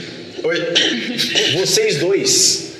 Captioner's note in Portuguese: Risadas